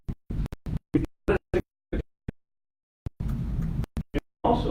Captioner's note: audio cutting out